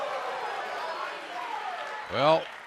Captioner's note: crowd response